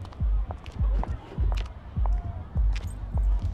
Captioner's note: sound of footsteps